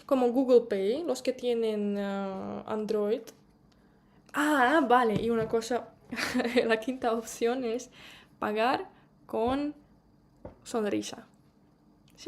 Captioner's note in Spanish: risas